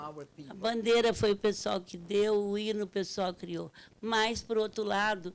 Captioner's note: speaking Portuguese